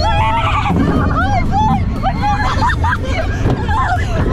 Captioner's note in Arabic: صراخ الأطفال